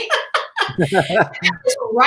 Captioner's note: laughing